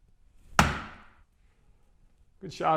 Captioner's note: dart thuds